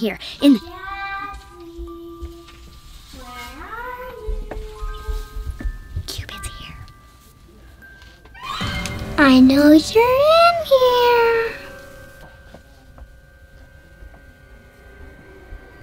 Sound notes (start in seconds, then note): 6.1 whispers; 8.4 epic music